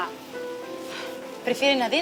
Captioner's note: sigh